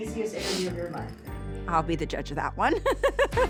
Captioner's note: laughs; upbeat music playing